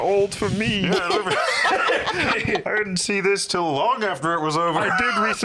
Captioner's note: laughs